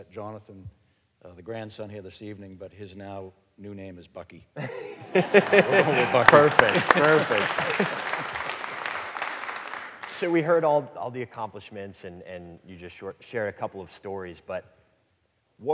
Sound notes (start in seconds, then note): 4.6 audience laughing; 8.0 audience clapping